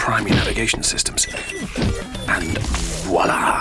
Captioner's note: portal beeps